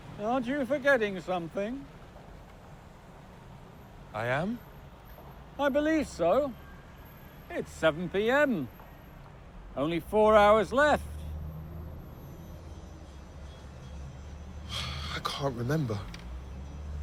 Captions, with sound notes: - Hey, aren't you forgetting something? - I am? - I believe so. It's 7:00 p.m. Only four hours left. - (sighs) I can't remember.